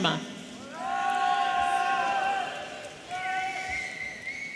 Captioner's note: audience cheering